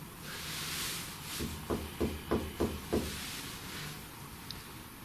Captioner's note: knocking